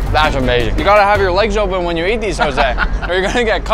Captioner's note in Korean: 웃음